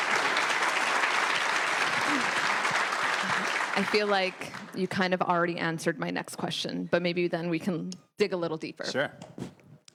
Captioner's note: applause